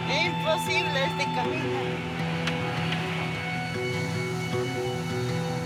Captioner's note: speaking in foreign language